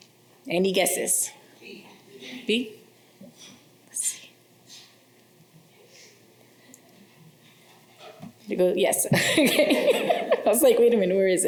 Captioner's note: laughter